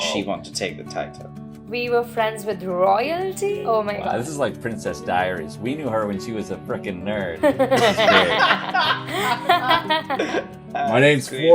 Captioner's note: laughter